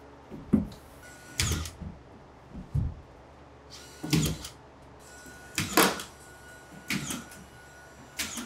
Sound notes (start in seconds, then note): 1.0 nail gun whirring